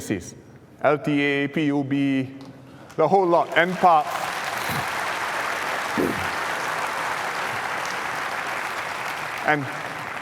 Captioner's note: applause